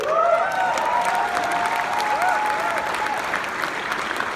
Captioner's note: clapping